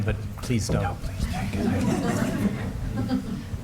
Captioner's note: laughter